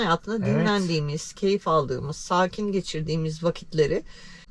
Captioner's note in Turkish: boğazını temizler